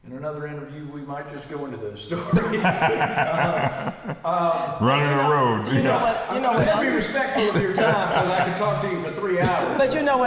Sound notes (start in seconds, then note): 2.2 laughs